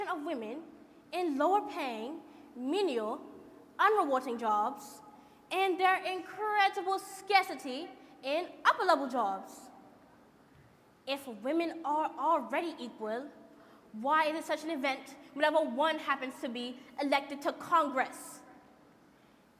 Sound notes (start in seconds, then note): none